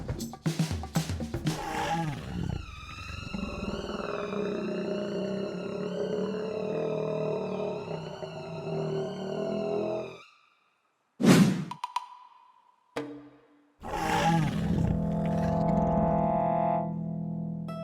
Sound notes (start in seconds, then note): 1.5 growling; 9.7 whooshing; 12.6 soft music